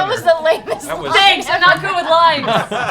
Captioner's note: laughing